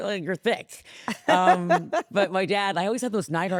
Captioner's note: laughs